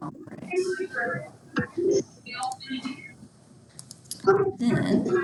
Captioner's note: attendees's mic distorting